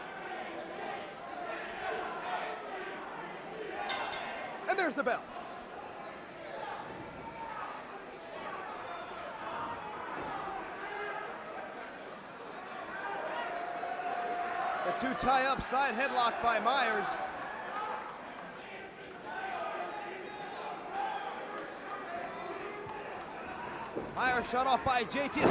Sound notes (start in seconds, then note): 0.2 crowd cheering; 4.7 bell ringing; 6.7 crowd chatter; 18.4 crowd chatter